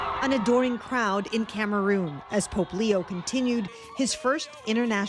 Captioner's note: cheers and Applause